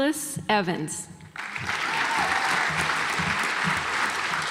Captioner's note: audience applauds